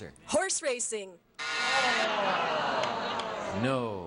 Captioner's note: buzzer beeps